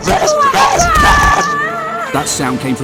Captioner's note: Madam Cucumber's screams echo through the zesty caves